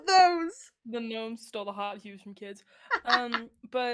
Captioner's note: laughs